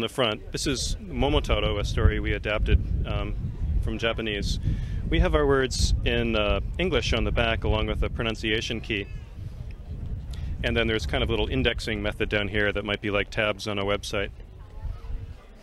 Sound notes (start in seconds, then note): none